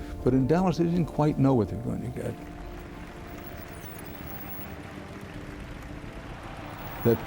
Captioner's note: applause